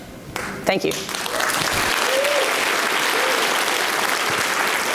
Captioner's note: audience applauds